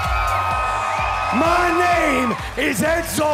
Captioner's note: crowd cheering